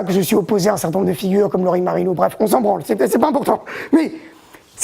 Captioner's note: laughs